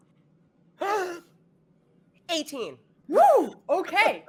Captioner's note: gasping